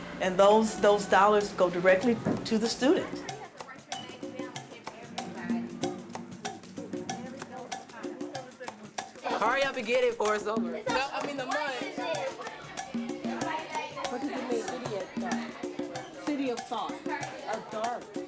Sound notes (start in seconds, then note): 3.8 uptempo music; 11.2 all chattering